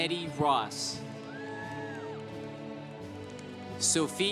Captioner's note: congregation applauding